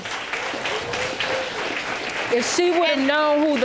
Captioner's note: audience applauding